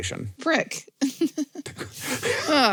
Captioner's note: chuckles